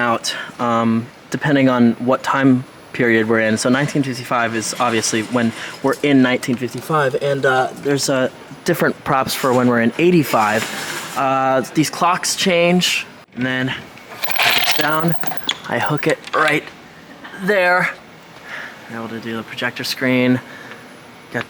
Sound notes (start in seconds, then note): none